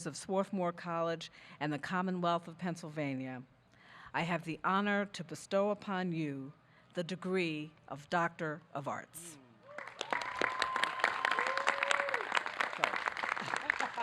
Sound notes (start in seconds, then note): 9.6 audience clapping